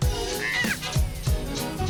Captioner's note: screams!